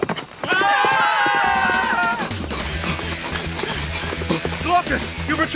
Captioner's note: screams